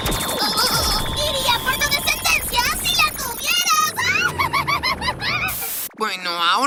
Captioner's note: laughs